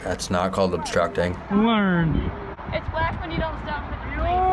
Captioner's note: man, mocking